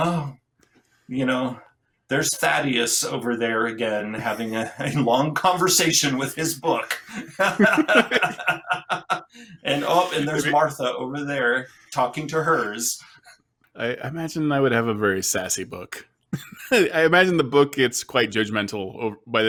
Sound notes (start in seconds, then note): 6.6 laughs; 16.3 chuckles